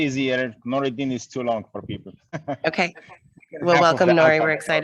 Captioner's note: laughs